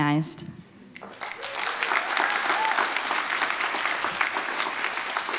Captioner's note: applause